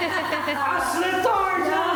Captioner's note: laughing